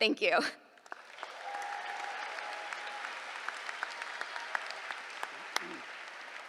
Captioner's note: applause